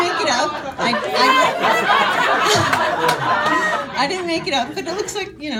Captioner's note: audience laughing